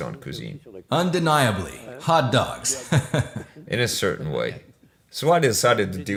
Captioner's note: laughs